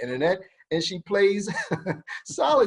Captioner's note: laughs; moderator laughs